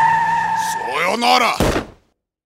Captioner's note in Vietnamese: Tiếng Nhật